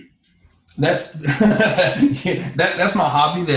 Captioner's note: laughs